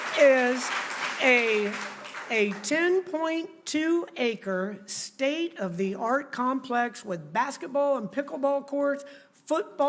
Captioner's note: applause